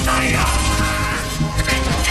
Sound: yells

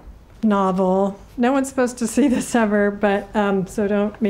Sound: chuckling

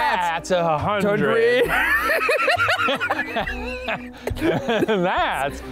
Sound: laughing

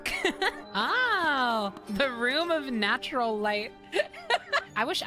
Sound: laughter

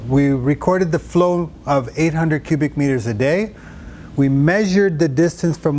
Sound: none

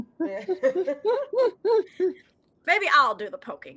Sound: group laughing

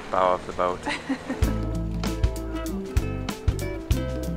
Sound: laughs; calm music

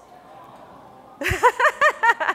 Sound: audience awing; laughing

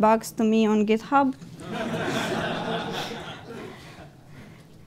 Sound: laughter

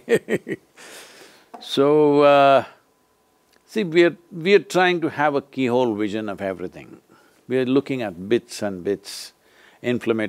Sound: laughs

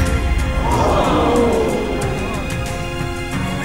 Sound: crowd gasps in awe

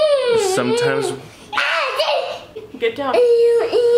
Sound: screaming

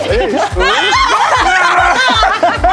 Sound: laughing; cheering

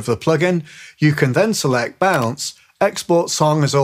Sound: computer mouse clicks

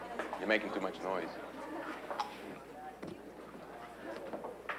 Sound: chuckles

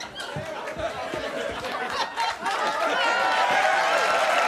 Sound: audience applauding

